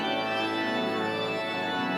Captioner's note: none